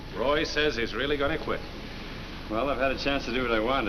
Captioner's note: none